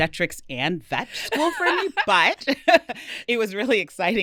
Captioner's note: laughing